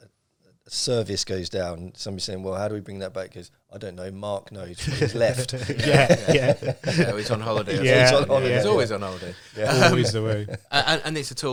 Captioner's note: laughing